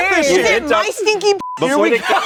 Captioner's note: beep; everyone laughs